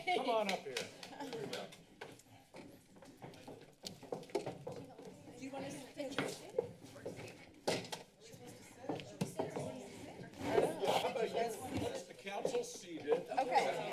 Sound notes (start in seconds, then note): 2.0 footsteps; 6.4 background conversations